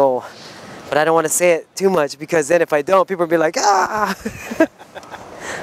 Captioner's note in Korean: 웃음